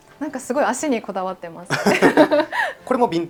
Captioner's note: laughs